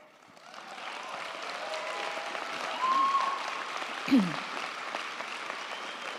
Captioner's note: crowd clapping; crowd cheering